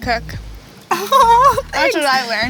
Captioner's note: laughs